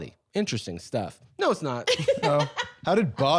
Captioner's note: laughing